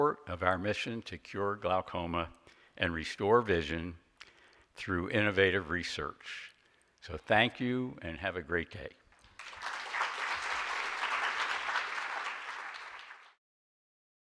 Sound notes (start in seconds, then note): 9.2 audience applauds